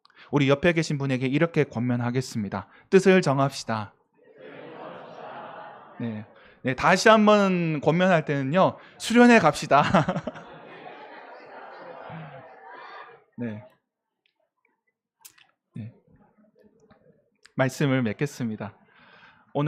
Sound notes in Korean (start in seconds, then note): 9.6 웃음